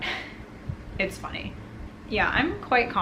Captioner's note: laughs